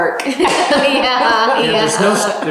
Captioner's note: laughs